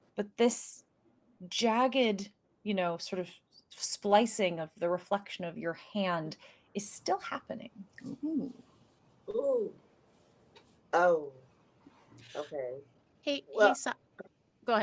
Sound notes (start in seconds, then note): none